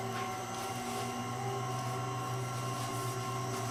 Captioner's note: whirring